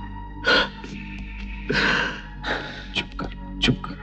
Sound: sobbing

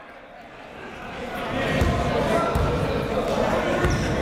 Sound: chatter

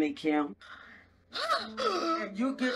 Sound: Kim gasp

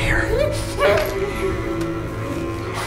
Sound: muffled sobbing

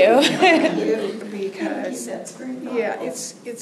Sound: laughter

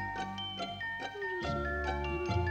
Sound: whispers

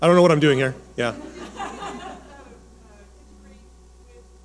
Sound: audience laughing; woman speaking the distance

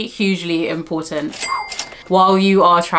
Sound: cash register chimes

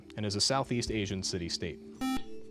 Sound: buzzer

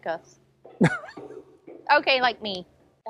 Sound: chuckles

